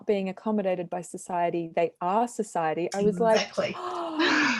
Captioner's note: inhales